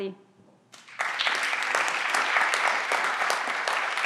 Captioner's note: everyone claps